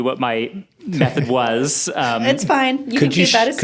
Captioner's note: laughs